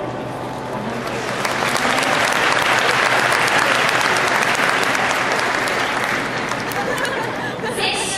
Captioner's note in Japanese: 拍手